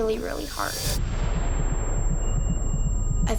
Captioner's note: high-pitched ringing